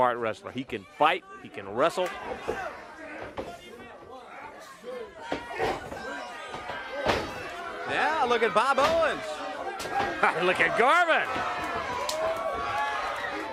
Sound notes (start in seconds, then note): 3.5 crowd chatter